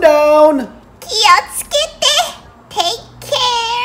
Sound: speaking in Japanese

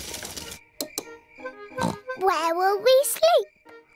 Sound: oinks

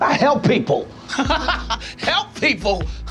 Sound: laughter

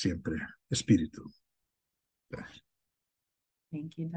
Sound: speaking in foreign language

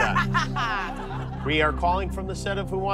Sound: laughs

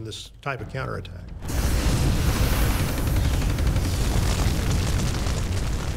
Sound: flamethrower roaring; fire crackling

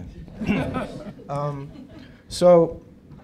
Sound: laughter

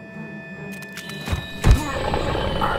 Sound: monstrous shriek

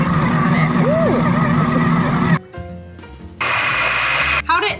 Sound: blender whirring

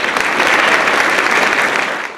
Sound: applause

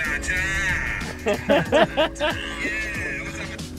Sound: laughter

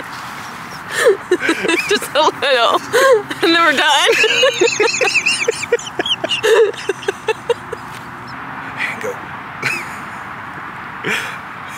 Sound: laughs

